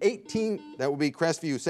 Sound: bell rings

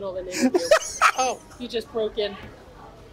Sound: laughs

